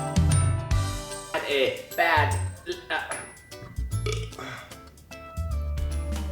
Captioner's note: belch